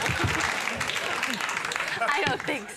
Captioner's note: audience laughing